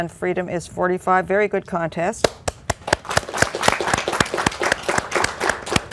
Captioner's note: applause